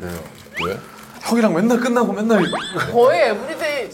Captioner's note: sipping